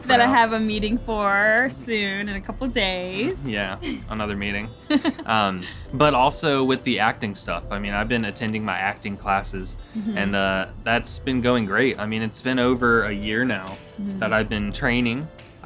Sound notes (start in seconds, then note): 4.8 giggles